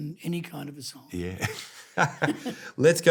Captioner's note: laughs